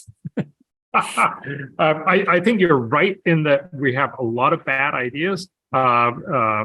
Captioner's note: laugh